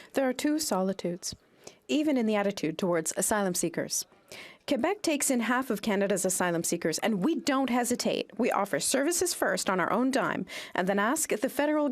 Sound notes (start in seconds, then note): 1.3 speaking French